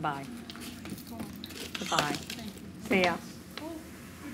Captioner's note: customer mutters